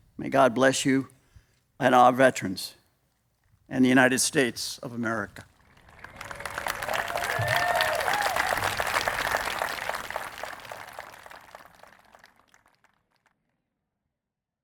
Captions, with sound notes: May God bless you and our veterans and the United States of America. [APPLAUSE]